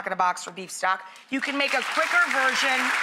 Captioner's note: audience applauds